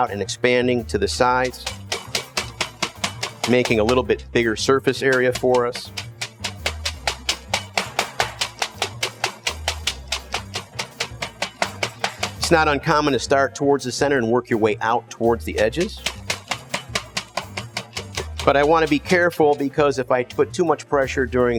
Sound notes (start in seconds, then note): 5.9 bright music; 5.9 mallet banging